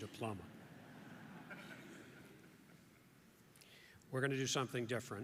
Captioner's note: audience laughs